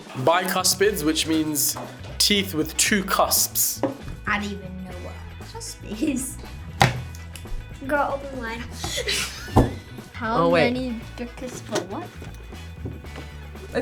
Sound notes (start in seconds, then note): 8.6 laughs; 8.7 both laugh